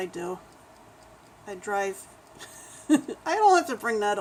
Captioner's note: laughs